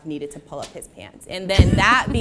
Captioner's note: laughter